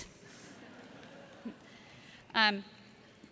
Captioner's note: laughter